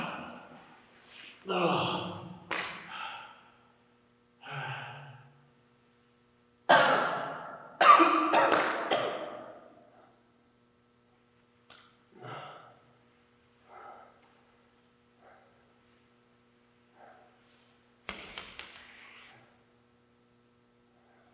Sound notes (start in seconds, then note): 1.4 Jacob groaning; 6.7 Jacob coughing; 18.4 ball thudding